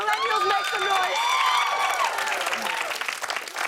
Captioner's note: cheers and applause